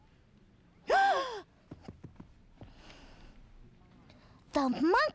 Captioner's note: gasps